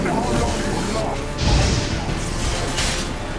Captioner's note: flames whoosh